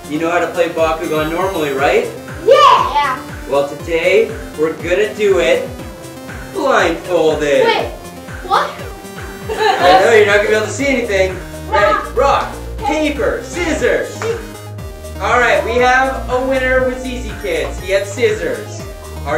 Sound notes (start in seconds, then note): 9.4 laughing